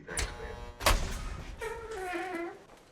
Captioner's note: door clangs open